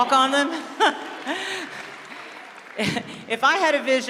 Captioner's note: applause, Laughter